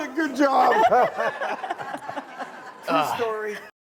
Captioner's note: laughter